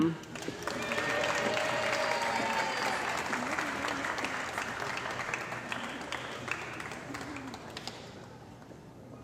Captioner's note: cheering & Applause